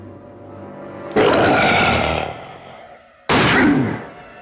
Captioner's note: suspenseful music; werewolf growls; werewolf grunting; gun firing